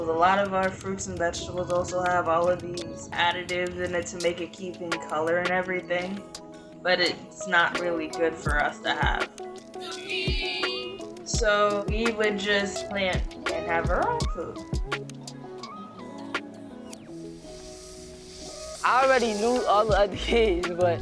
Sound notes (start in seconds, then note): 15.0 relaxed music; 17.0 hose spraying